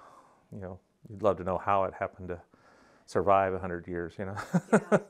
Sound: laughing

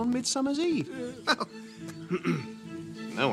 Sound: bilbo chuckles

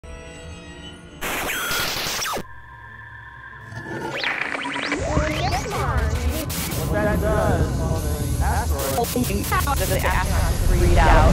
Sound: sound Effects

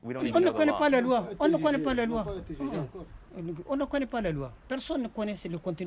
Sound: speaks in a foreign language

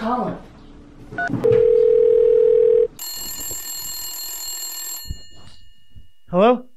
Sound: phone ringing

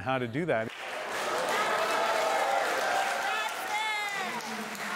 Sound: cheering and applause

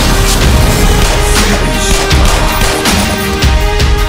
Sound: gunfire, grunting

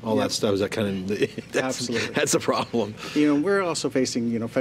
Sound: laughs

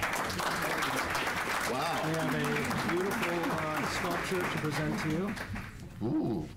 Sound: applause

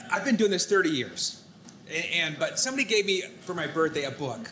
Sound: none

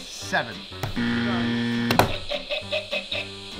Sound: incorrect buzzer; dec’s buzzer

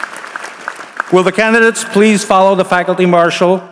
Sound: applause

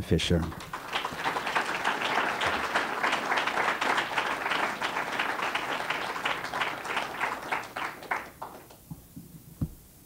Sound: applause

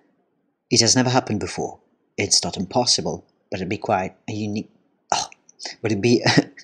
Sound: ugh

